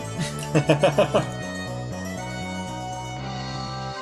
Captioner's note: laughs